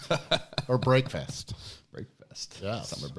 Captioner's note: laughing